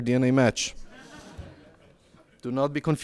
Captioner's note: laughs